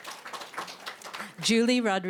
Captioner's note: applause